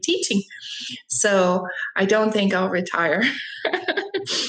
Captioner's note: laughs